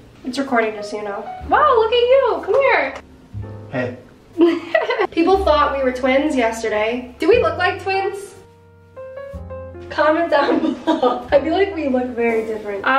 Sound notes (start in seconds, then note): 4.4 laughs